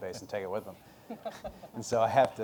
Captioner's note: laughter